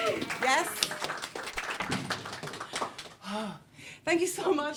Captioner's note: cheering